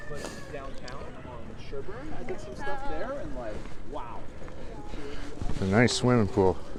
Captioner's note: people talking